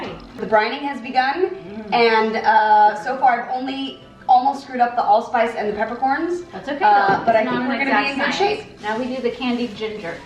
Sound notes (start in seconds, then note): none